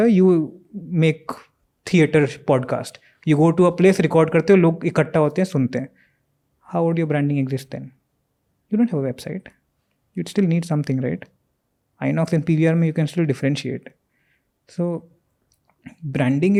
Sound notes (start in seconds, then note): 5.9 speaks in Hindi